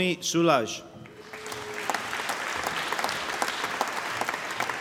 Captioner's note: applause